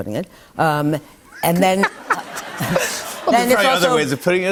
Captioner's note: laughter